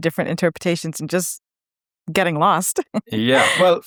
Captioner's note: chuckling